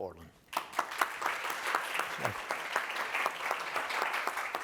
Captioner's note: applause